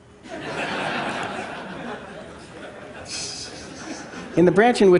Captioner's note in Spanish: Risas